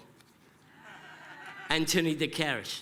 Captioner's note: laugher